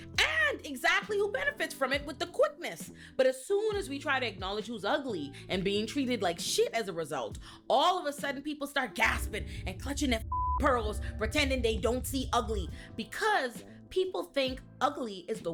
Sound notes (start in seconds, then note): 10.2 beep